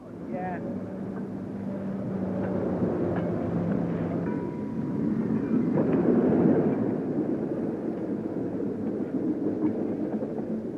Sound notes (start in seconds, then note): 1.9 train passes